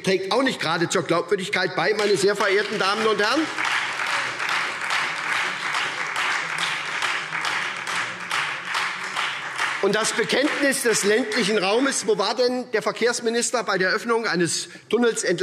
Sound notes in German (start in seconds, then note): 1.9 Beifall SPD und Freie Demokraten